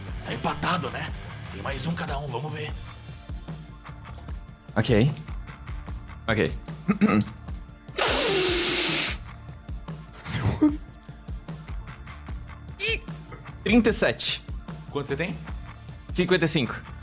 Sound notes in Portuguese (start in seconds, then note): 6.8 limpa a garganta; 8.0 suspiro pesado